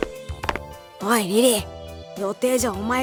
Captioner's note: whisper